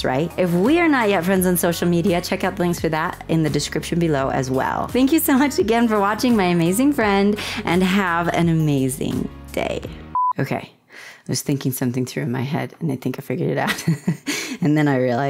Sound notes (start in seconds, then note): 10.1 blooper beep